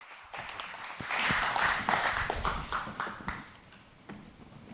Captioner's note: audience welcoming applause